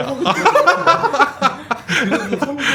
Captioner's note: laughing